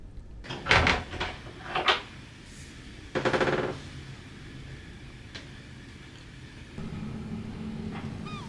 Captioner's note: bathroom door creaks open